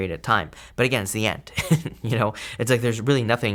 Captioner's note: laughing